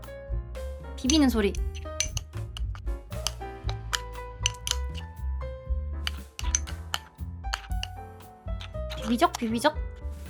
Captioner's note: stirring sounds